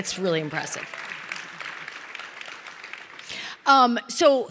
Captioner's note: audience applauding